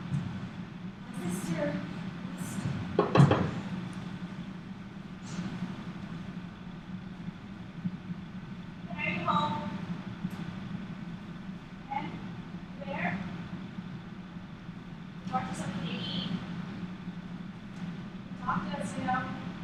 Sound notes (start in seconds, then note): 2.9 knocking